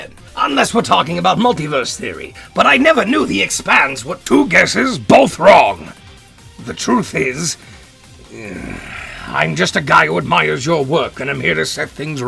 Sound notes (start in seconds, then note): 8.2 groans